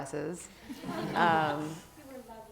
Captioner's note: laugh